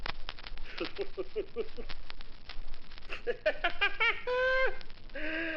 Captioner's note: Rufus voiceover laughing